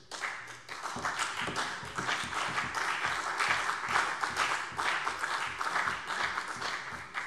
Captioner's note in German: Beifall CDU und BÜNDNIS 90/DIE GRÜNEN